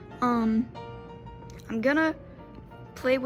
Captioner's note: none